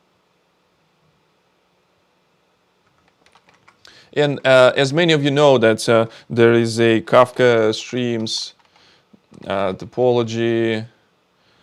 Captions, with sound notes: (keyboard clicking) And as many of you know that there is a Kafka Streams topology visualizer,